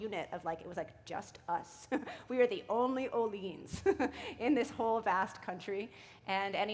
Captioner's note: chuckle